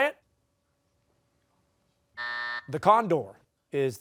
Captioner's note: buzzer